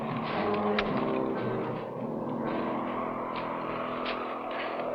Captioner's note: wind howling